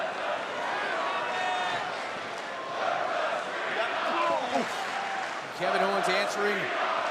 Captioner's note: crowd cheering